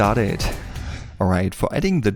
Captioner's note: air whooshing